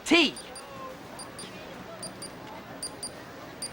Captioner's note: watch beeps